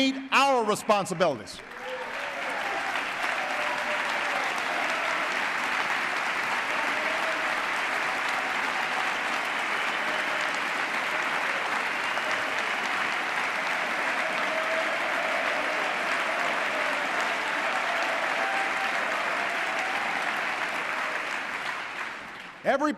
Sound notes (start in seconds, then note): 1.8 applause